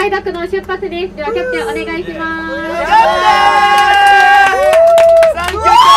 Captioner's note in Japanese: 拍手